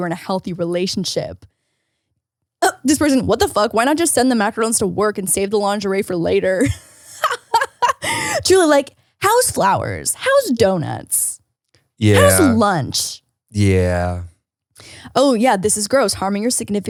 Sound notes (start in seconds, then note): 6.6 laughs